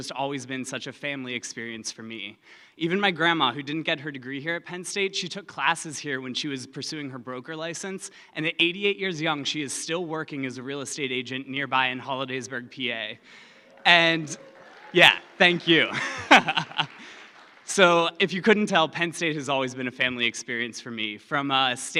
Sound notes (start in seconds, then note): 13.2 applause